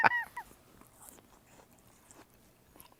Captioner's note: laughing; crunches